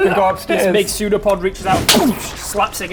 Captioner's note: boosh